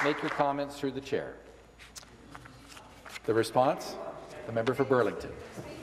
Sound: some Applause

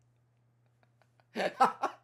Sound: laughs

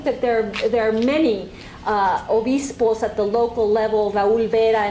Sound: spanish

